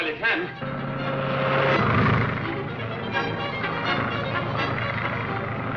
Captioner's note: plane engine roars